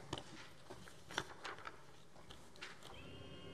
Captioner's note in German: none